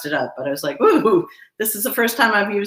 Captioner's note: gasps